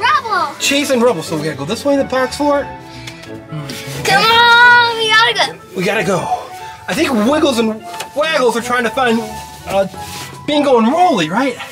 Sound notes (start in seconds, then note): 3.6 taps